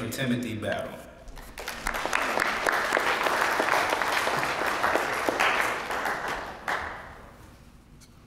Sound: applause

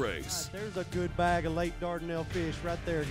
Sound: voiceover

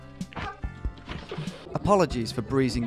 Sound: laughing

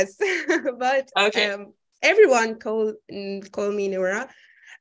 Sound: chuckling

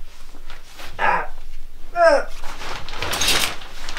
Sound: grunts, struggles

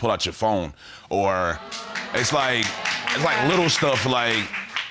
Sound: audience laughs

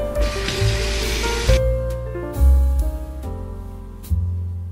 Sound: water rushes

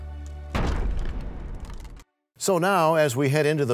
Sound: crashing sound

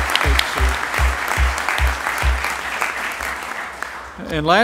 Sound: applause

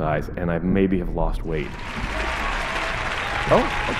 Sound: cheers and applause

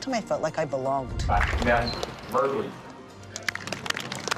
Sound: applause

